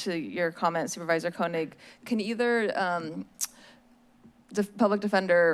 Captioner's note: smacks lips